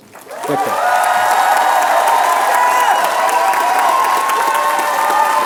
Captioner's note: applause